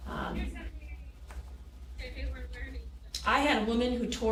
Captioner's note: woman chattering